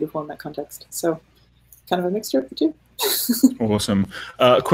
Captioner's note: laughing